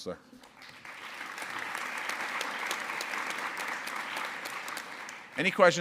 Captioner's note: audience applause